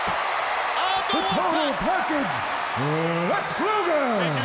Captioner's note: crowd cheering